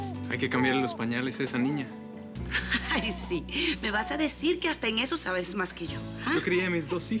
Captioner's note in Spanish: Risas